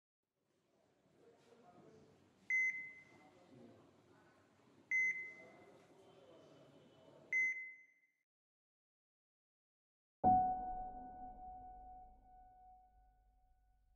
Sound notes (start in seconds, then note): 2.4 heart monitor beeps; 10.2 quiet piano music